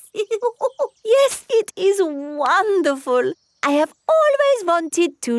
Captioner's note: laughs